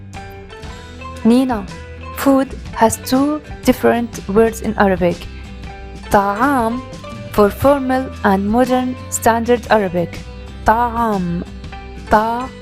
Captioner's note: spoken / colloquial Arabic